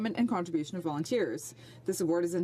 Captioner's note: speaking French